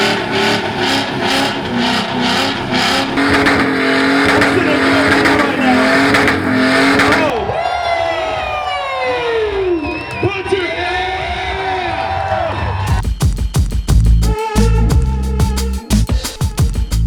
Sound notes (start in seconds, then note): 7.8 crowd cheering; 10.6 speaker drowned by cheering crowd; 13.0 techno music